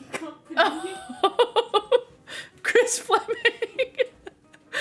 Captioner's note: laughs